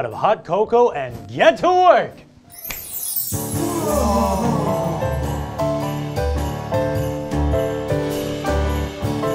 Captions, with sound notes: of hot cocoa and get to work! (Santa snaps) (Elves exhale in amazement) (jolly music)